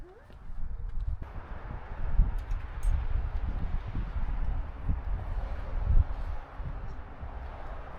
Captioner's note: wind